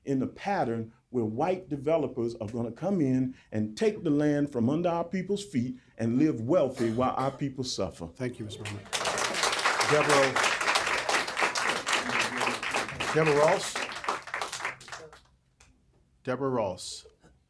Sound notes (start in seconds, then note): 8.6 applause